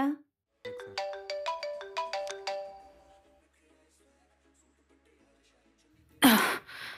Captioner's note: phone ringing